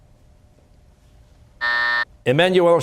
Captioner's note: buzzer